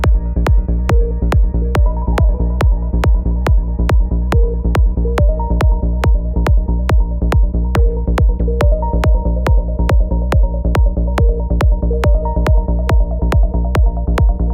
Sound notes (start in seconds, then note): none